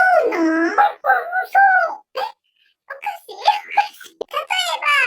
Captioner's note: laughs